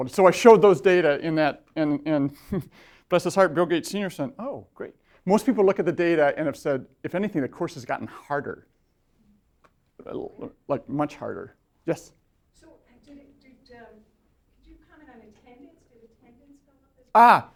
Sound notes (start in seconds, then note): 12.8 voiceover